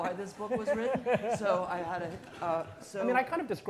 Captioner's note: all laughing